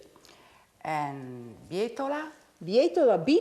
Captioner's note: speaking Italian